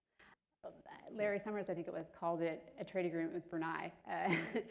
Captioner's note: laughter